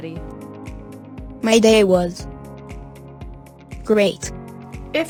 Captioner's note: device speaks